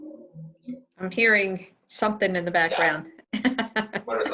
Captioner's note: laughs